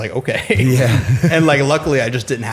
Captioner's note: chuckle